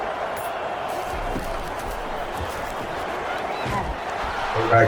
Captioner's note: crowd Noises